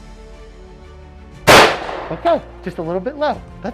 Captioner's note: gun firing